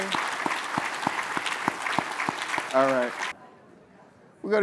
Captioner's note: applause